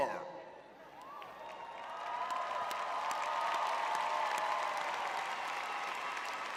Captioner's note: audience cheering